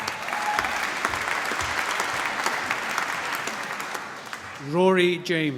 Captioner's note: applause